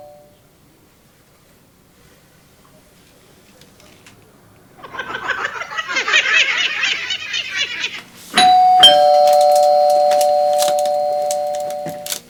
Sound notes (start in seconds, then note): 4.7 A wicked laugh; 8.3 doorbell ringing